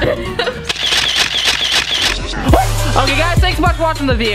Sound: laughing; sound effects

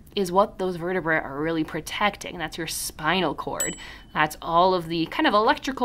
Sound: ding

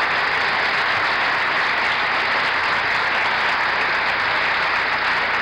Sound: applause continues

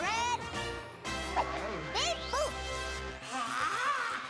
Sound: exclamation; groaning

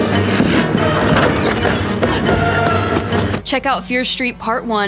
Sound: door opens

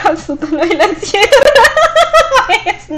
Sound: laughs

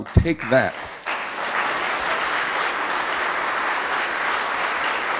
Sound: audience applauding

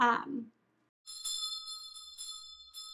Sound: bell ringing

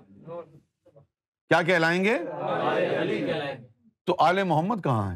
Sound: audience repeats

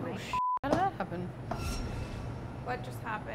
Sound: swears

